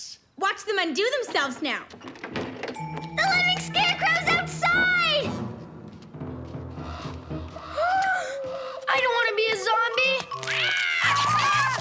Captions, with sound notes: WATCH THEM UNDO THEMSELVES NOW! THE LIVING SCARECROW'S OUTSIDE! (BIG GASP) I DON'T WANT TO BE A ZOMBIE! (SCREECHES)